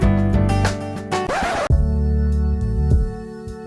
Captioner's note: upbeat instrumental music; record scratch; neo soul music